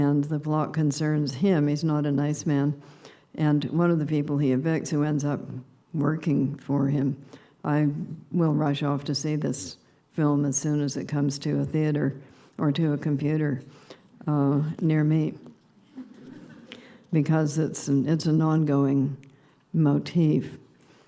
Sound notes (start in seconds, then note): 15.9 subdued laughter